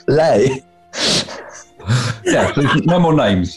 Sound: laughter

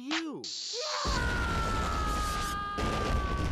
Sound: yelling

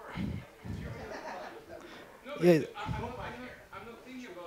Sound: laughter

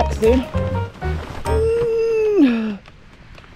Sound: heaves

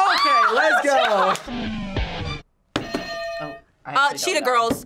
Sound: guitar riff; bell rings

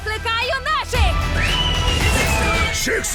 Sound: whistles

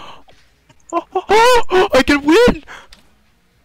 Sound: happy moaning

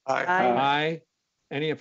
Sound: multiple voices

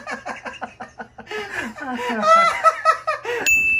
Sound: he laughs like someone who won the lottery

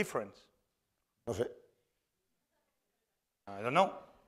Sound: speaking spanish

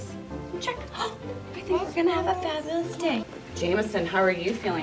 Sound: gasps

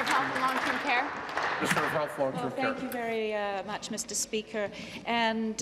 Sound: applause

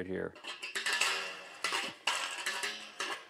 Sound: creaking

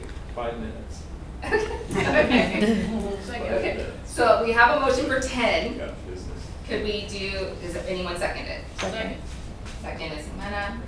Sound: laughter

